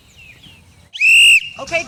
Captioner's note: whistle blowing